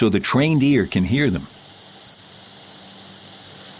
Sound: mice squeaking

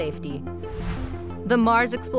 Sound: whooshing

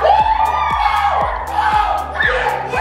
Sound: cheers

